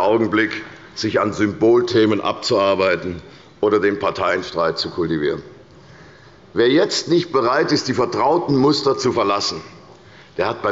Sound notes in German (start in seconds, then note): none